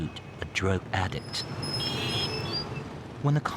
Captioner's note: horn honking